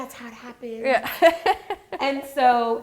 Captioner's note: laughing